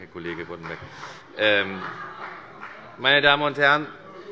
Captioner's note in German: Beifall und Heiterkeit bei der FDP